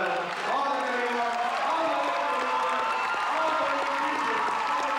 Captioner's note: cheering